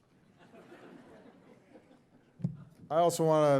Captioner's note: audience chuckling